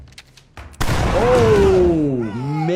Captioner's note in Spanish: disparos de escopeta